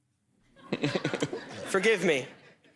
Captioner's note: laughter